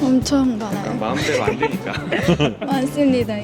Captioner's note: laughter